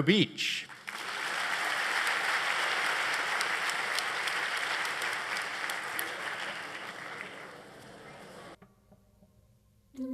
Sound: applause

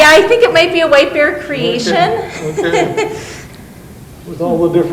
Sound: laughs

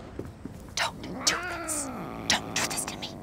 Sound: meowing angrily; whispering

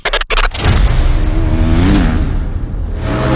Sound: bike revving

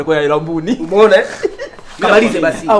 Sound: laughs

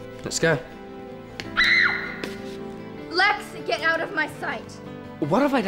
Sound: screams

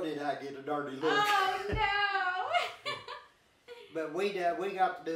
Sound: both chuckling

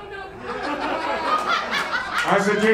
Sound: crowd laughing

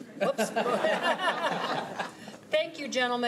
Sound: laughing

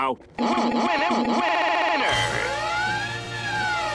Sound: machine glitching

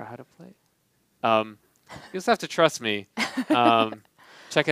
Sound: laughing

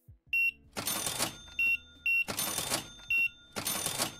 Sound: beeping

